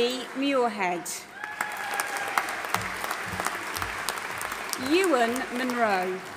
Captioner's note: audience applauding and cheering